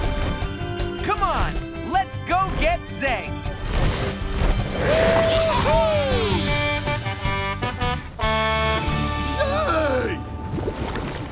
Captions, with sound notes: Come on, let's go get Zeg. Yeah heh! [Blaze honking] Hey!